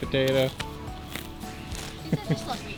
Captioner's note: horse chomping; dad laughing